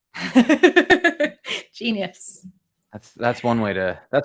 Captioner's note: laughter